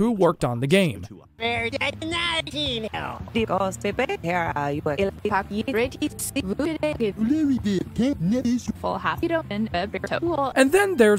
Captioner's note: puppet gibberish